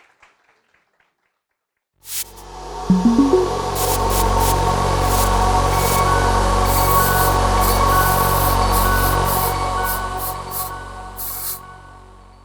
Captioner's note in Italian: Applausi